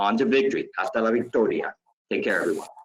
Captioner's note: speaks in Spanish